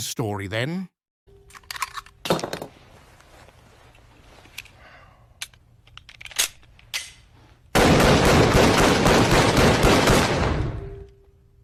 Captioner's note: gunshots. Silence